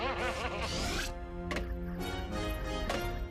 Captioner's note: laughs